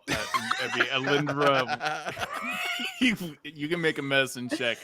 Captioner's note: laughing